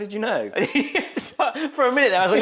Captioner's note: laughs; host laughs